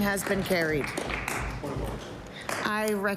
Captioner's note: applause